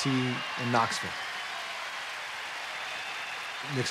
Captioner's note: cheers and applause